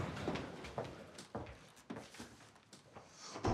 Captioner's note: footsteps clack